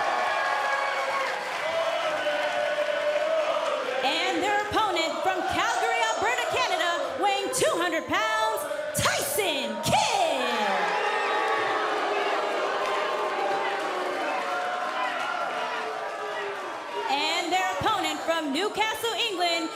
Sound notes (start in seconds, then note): 0.0 cheers & applause; 3.8 fans chanting; 13.8 cheers & boos